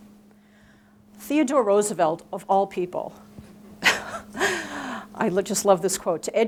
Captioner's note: chuckling